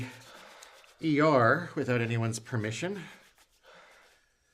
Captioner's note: none